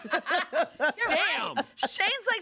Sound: everyone laughs

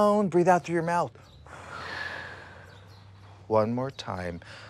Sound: exhaling

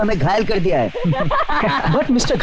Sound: laughing

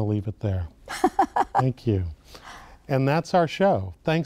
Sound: laughing

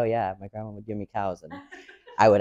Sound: audience laughs

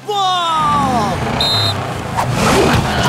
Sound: whistles

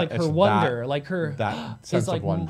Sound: gasps

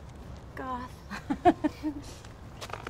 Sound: laughter

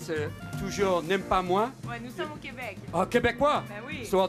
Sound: speaking french

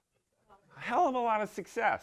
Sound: crowd murmuring

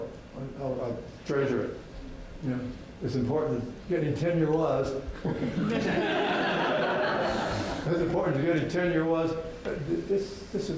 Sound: and the audience chuckles then laughs

